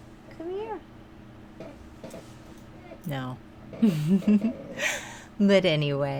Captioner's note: giggle